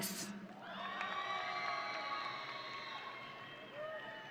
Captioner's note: audience cheering